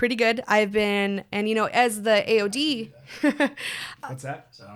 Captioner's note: laughs